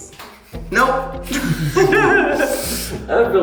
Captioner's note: laughs